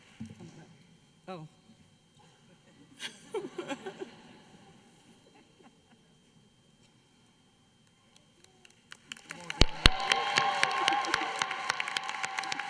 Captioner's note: applause